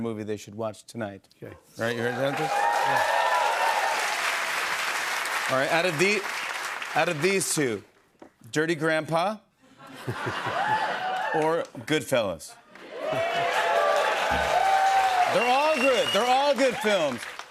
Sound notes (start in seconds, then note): 1.9 cheers and applause; 12.7 cheers and applause